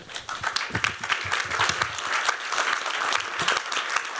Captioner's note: applause